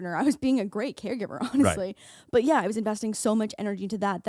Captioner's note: laughing